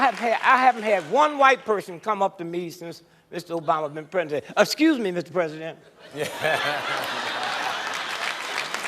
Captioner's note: laughter